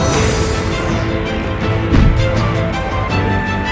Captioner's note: garara